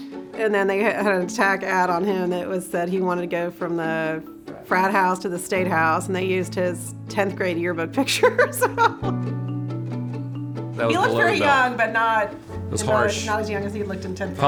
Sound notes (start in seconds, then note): 8.0 laughter